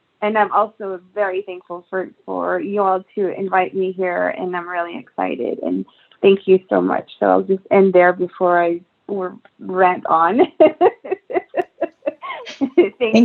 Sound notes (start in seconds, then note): 10.3 laughs